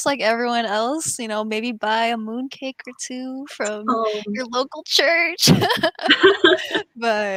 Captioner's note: laughs